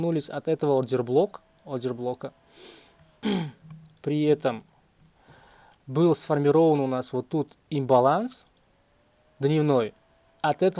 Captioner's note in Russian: фыркает; откашливается